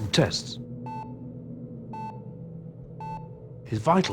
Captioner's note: monitor beeping